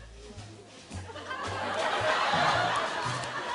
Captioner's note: laughter